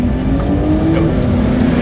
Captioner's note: engine revs